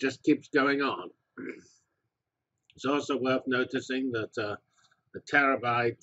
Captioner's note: cough